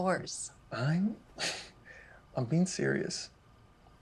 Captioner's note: chuckles